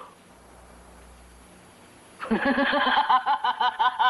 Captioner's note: laughing